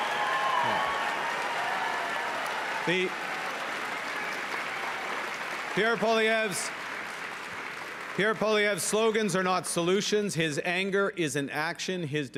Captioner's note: cheering and Applause